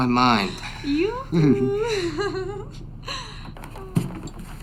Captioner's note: laughs